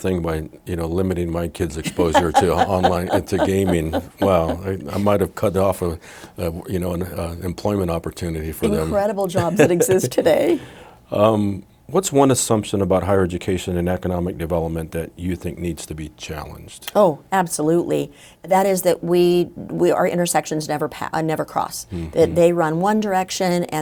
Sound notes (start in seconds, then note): 1.8 laughing; 9.2 laughing